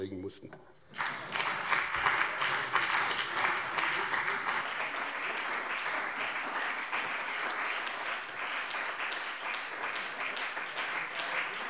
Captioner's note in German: Beifall bei dem BÜNDNIS 90/DIE GRÜNEN und der CDU